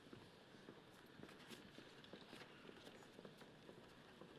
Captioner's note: footsteps pattering